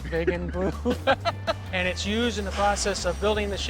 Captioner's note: laughing